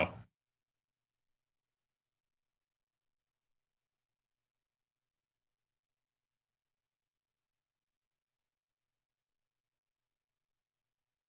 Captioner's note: silence